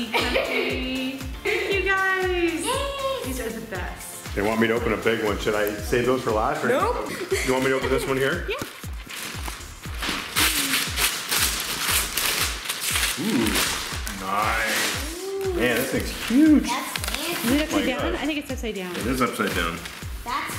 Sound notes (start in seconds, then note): 10.6 paper ripping